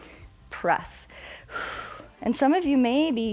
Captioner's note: exhales